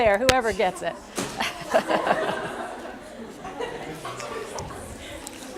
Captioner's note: laughter